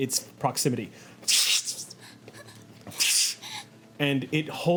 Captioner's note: zapping